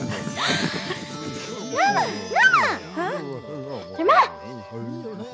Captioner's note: Moses' mother cries; Miriam speaks gibberish